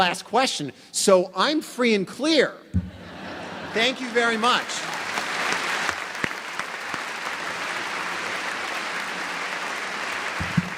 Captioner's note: applause